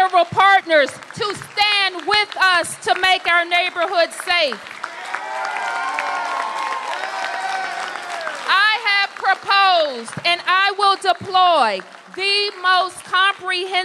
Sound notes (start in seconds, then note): 7.7 applause